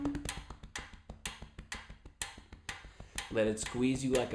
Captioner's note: tapping and ticking sound